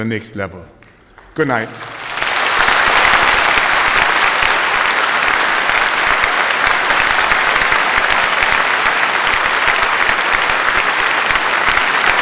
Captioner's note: applause